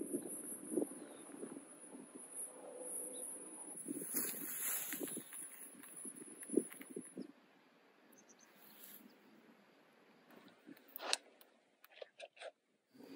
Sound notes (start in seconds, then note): 0.0 birds chirping; 0.2 wind whooshing; 8.0 bird chirping